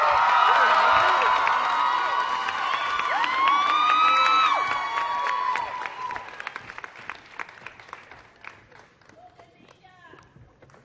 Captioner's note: applause